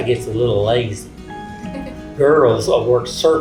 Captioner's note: woman laughing